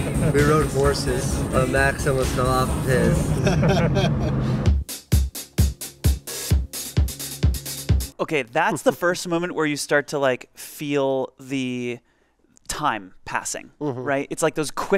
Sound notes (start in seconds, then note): 3.2 people laughing; 7.1 upbeat music